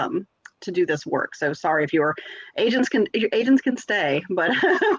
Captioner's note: laughs